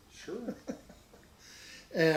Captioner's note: giggles